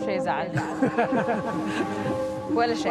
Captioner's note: laughing